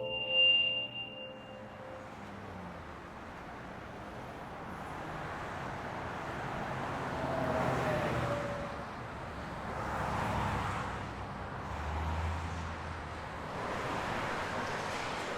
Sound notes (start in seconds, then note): 7.2 cars passing